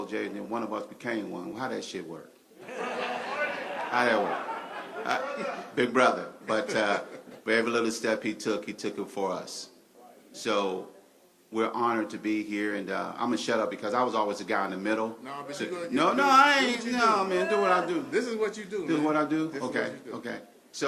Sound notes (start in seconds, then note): 2.6 laughter